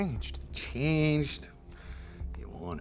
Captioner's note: scottish accent